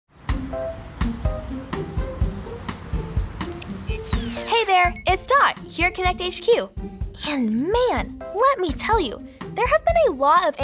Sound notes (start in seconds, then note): 0.6 lighthearted music; 3.6 screen squeals